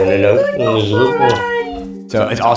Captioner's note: lips smacking